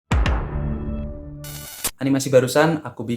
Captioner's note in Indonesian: suara interferensi